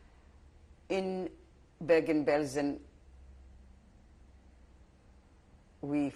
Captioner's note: pauses for 3 seconds